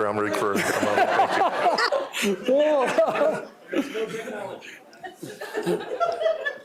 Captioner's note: laughter